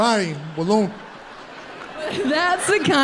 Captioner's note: audience laughs